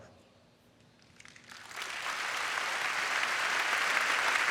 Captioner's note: applause